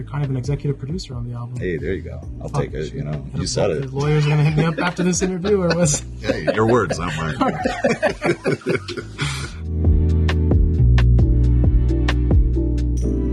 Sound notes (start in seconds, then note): 8.5 laughing; 9.8 gentle rhythmic music